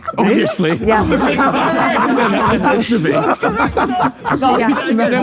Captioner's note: group laughing